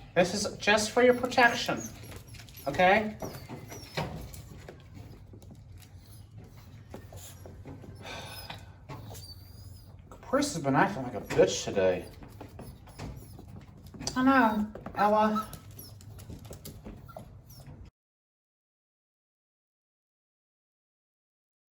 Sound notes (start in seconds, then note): 5.6 Ella whimpers, Caprice meows; 16.1 Ella whimpers